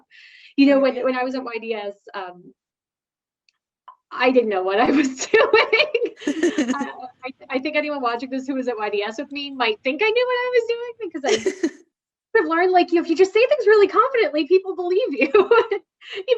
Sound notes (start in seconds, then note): 5.8 both laughing